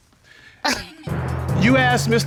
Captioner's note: chuckles